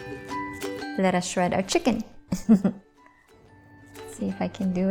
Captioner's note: chuckles